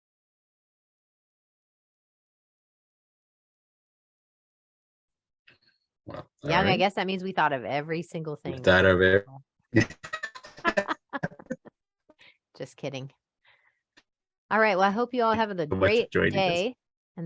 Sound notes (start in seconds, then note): 0.1 silence continues; 9.7 laughing